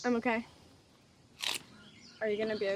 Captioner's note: celery crunches